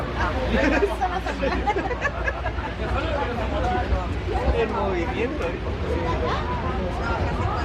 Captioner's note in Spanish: sonido del movimiento del tren